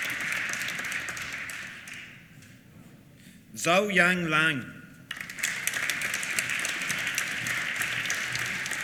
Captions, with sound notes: Xiaoyang Liang (APPLAUSE)